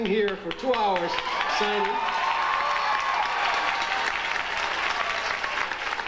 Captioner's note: audience applauding